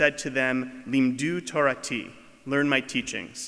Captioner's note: speaking foreign language